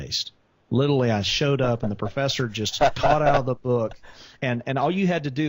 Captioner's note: laughs